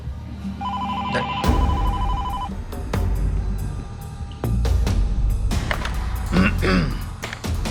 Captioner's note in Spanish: Suena el teléfono